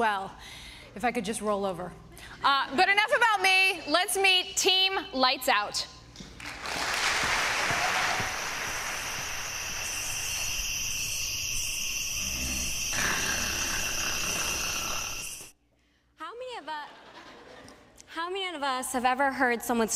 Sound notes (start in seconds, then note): 6.4 applause; 9.8 snoring